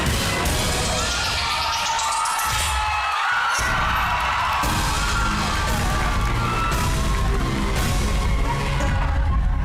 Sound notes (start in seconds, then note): 0.9 audience loud cheering, applauding